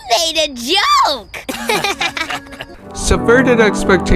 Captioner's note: laughter